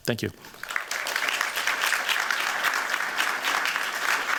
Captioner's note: applause